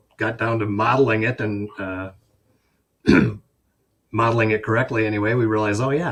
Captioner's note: clears throat